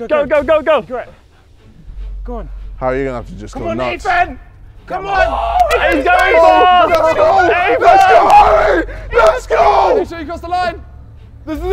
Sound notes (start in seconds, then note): 7.9 men shouting